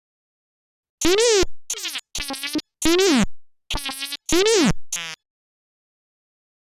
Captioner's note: c64 simulated talking